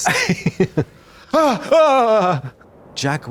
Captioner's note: blonde Women shudder